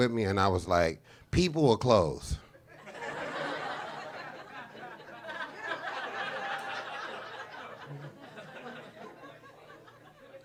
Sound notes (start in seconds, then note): 2.7 audience laughing